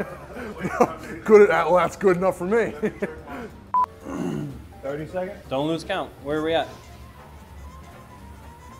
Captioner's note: laughing